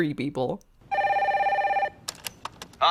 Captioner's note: phone rings; click